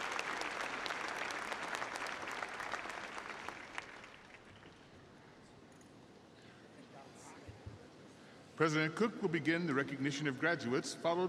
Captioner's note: applause